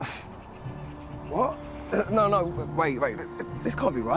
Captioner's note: chuckles